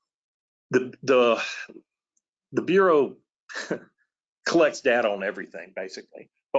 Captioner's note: laughs